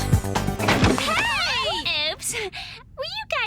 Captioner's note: door opens